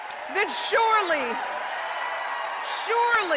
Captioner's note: applause